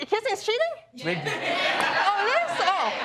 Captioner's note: scattered response from audience